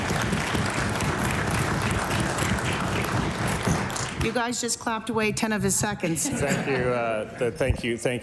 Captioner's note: applause